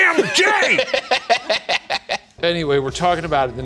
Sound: laughing

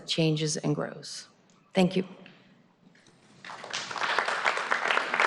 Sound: applause

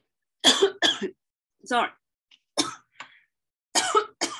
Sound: coughing

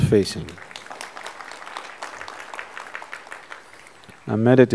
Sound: applause

